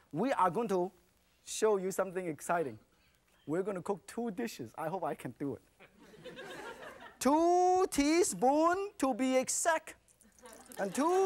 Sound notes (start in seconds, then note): 5.8 laughter; 6.0 crowd; 9.5 crowd; 10.2 laughter